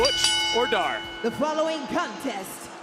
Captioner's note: bell ringing